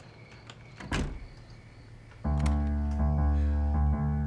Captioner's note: locks door